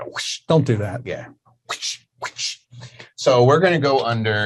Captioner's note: imitating slaps